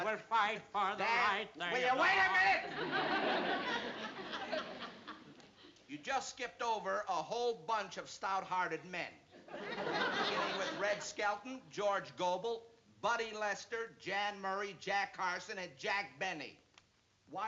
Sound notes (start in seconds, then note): 1.4 shouting